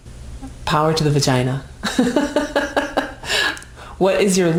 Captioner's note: laughing